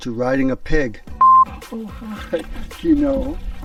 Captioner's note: scene beeping